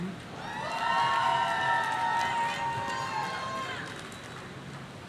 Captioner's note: audience cheering